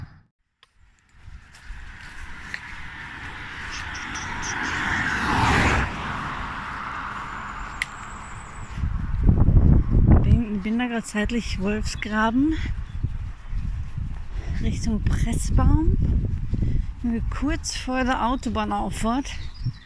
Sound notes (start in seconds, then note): 3.7 traffic; 8.0 wind